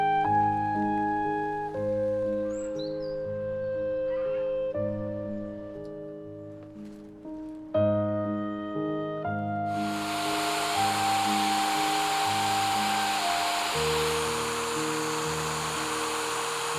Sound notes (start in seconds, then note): 2.5 morning birds sing; 9.7 sound of Valves grinding against wire brush